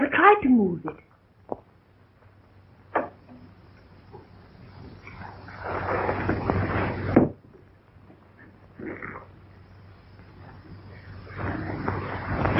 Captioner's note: pounding